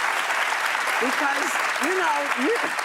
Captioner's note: applause